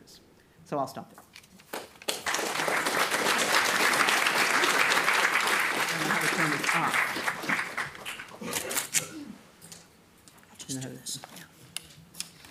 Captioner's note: audience clapping